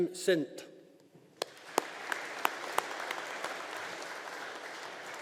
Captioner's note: audience applauding